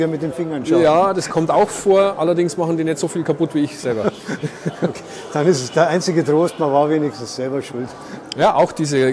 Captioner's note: both laugh